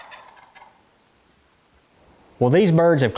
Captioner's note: turkey's gobble